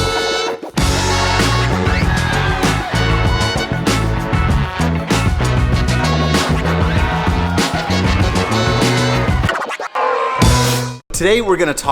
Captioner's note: applause over music